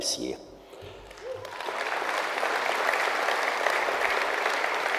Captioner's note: audience applauds